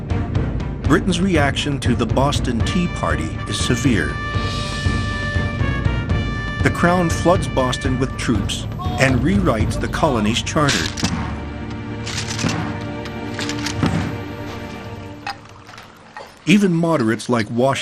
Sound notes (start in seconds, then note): 10.4 firearms clack; 14.0 water pours